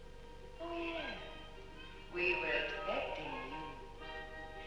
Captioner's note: voice over loudspeaker